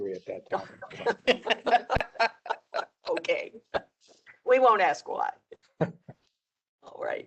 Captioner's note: laughter